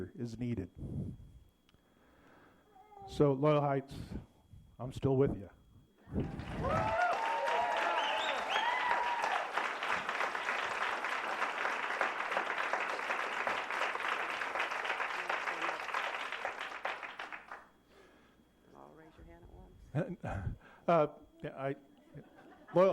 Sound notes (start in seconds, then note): 11.0 applause